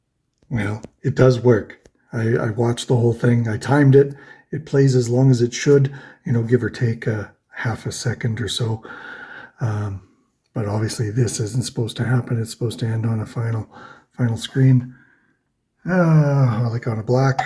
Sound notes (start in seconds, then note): 15.9 sighs